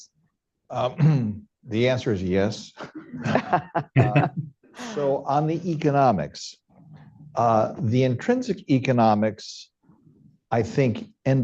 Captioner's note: laughter